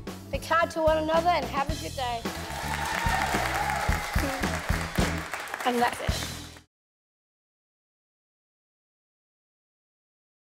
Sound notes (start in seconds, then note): 2.2 applause and cheering; 4.5 laughs